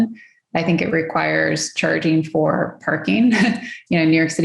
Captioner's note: laughs